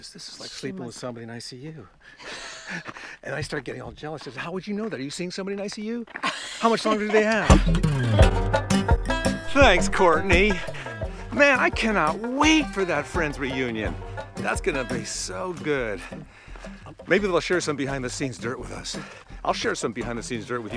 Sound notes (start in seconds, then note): 2.2 Courteney laughs; 7.6 lively acoustic guitar music